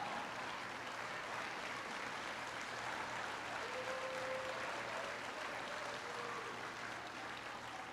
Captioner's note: laughter and applause